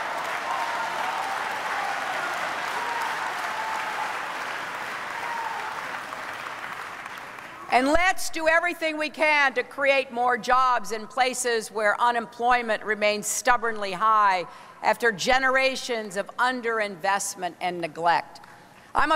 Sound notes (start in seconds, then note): 0.0 applause